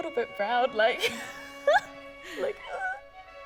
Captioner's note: laughs in social awkwardness